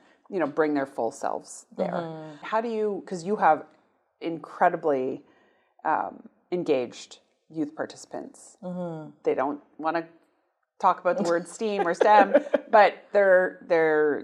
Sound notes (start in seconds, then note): 11.2 laughs